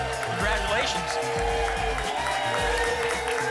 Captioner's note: applause and cheering